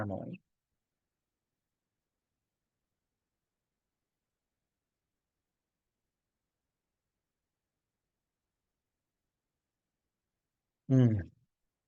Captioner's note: pause